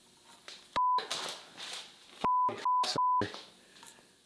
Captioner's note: beep